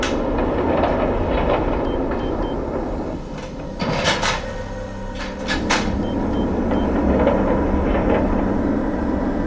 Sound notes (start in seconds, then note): 5.1 beeping